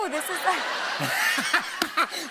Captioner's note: laughter